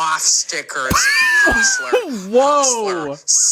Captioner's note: laughs